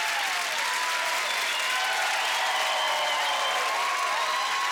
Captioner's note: cheering